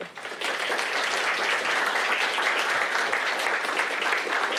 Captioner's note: applause